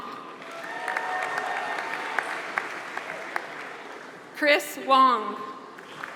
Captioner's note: applause; applause